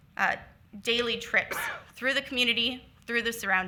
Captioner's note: attendee coughs